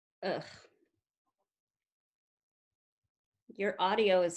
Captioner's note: groans in disgust